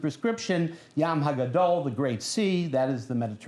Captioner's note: non-english speech